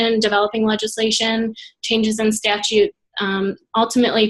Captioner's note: none